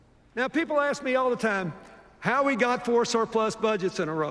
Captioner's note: none